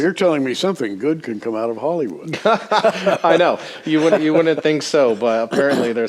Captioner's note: laughter